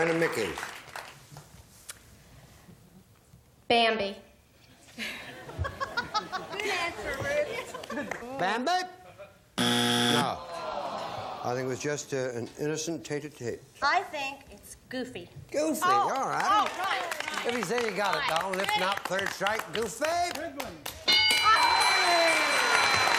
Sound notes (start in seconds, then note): 9.6 buzzer